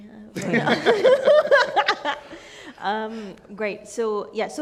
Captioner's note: all laugh